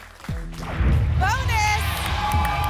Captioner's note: boom